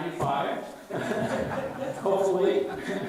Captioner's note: all laugh